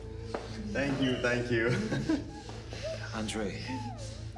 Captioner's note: Andre laughing